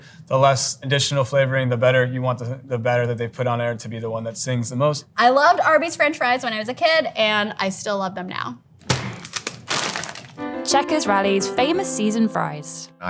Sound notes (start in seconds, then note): 8.8 fries pack thudding; 8.8 plastic crinkling